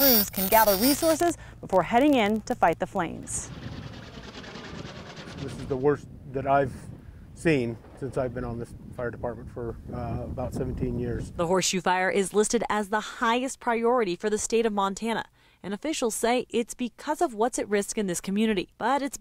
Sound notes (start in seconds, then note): 3.4 helicopter nats